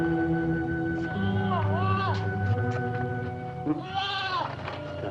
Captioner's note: goats bleating